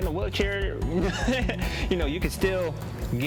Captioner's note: laughs